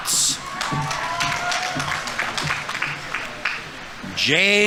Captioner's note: audience applauding; audience members cheering